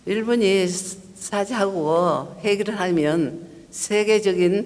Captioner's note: speaking foreign language